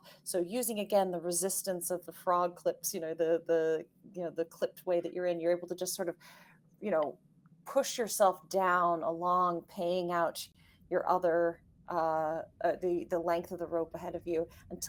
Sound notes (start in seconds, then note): none